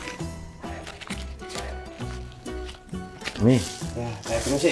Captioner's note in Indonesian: Suara Bejo menghitung uang